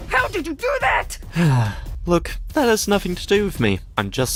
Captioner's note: sigh